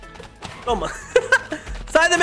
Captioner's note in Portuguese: risos